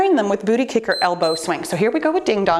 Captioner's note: timer beeps